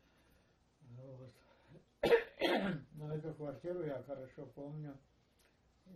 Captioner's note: coughing